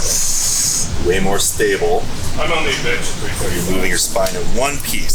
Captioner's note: background chatter